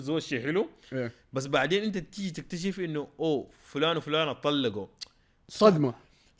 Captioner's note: tsks